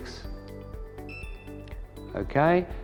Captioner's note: camera beeps